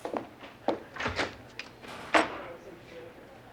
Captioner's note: door opens